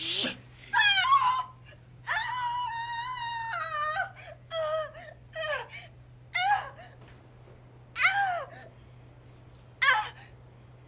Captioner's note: Marlam Moaning